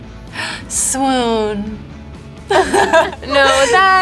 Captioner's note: gasps; laughs